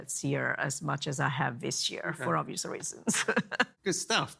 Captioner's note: laughs